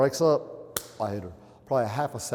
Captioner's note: hand smacks